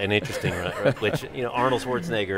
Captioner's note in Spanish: concede risas